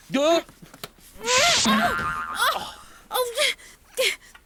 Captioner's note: yelps; groaning